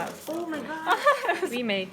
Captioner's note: laughs